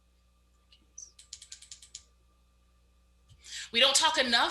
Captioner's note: mouse clicks